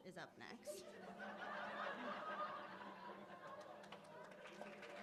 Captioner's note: laughter, applause